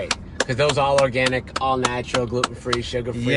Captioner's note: claps